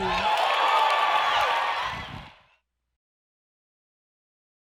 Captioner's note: cheering and applause